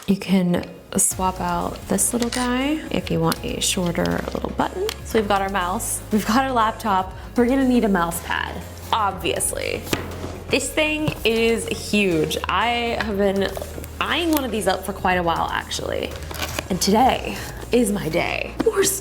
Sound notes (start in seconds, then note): 9.9 package thuds; 16.0 package rustling